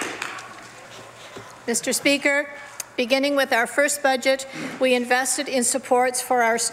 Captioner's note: some Applause